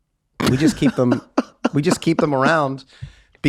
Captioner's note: laughing